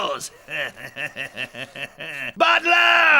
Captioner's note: Bechamel chuckles